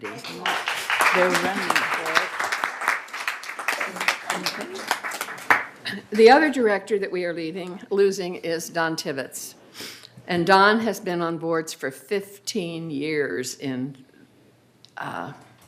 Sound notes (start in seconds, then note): 5.2 applause